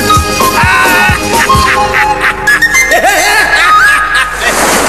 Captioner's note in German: herzliches lachen